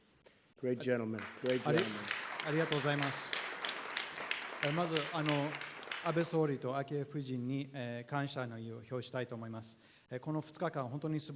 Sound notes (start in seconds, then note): 3.1 applause